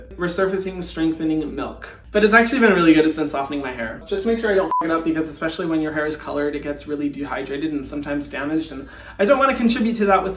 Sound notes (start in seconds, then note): 4.6 beep